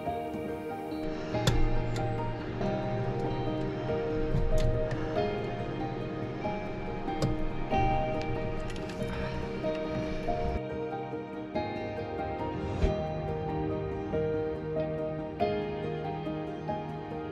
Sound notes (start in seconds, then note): 1.5 parts thumping; 7.9 gentle music continues